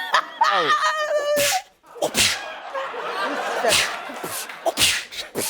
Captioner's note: laughing; making kick sounds